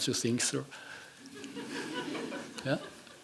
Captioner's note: laughing